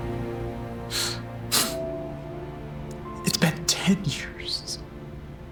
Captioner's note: sobs